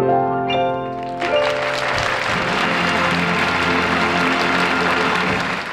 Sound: audience applauds

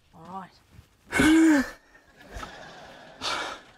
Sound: exhales

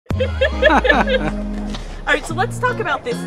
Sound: people laughing

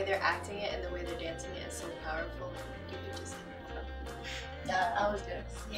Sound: quietly

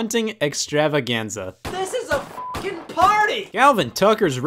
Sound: beep

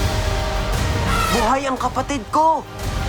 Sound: elephant trumpets

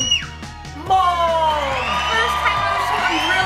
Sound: audience cheering

